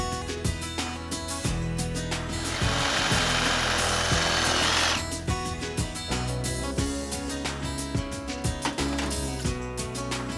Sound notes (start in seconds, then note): 2.4 tool whirring